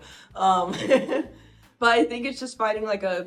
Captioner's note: laughing